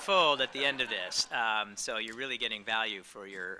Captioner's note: audience laughing